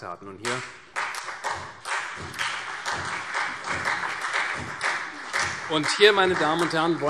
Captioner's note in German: Beifall CDU, BÜNDNIS 90/DIE GRÜNEN und AfD